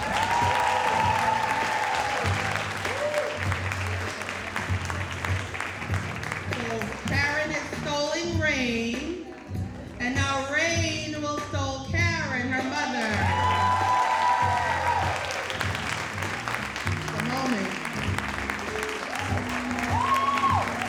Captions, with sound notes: (audience cheering and applauding) - So Karen is stoling Rain. And now Rain will stole Karen, her mother. (audience cheering and applauding)